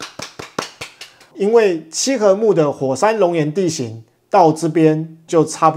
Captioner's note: applause